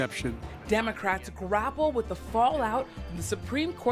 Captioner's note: voice-over